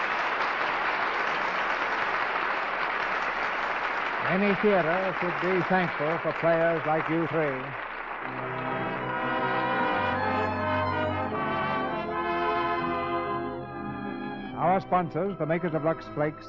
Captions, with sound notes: (audience applauding) Many theaters would be thankful for players like you three. (upbeat music) Our sponsors, the makers of Lux Flakes,